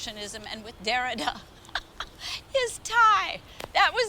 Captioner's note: laughs